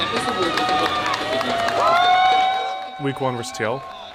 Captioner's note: crowd cheering; upbeat music